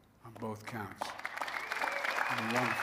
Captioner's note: applause